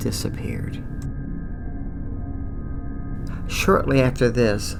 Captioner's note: eerie sound